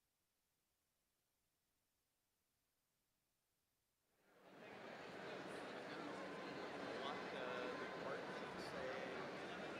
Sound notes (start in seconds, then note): 4.7 people chattering indistinctly